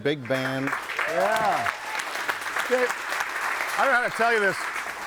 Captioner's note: audience applauding